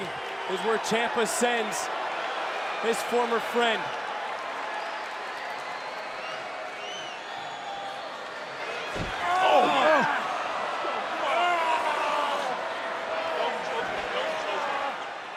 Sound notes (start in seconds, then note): 10.3 crowd chatter